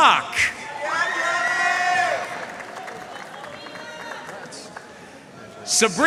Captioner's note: audience cheering and applauding